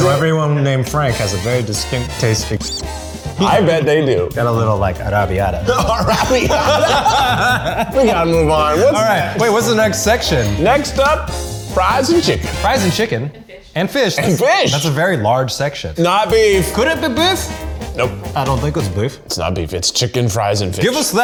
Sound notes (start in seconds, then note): 3.0 squeak; 5.0 laughing; 5.1 foreign language